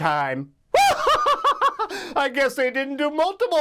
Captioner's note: laughs